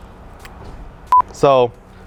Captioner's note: beep